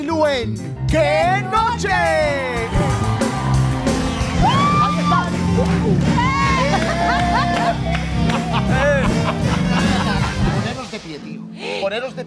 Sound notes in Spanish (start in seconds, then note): 8.0 Ríe; 9.6 Con acento español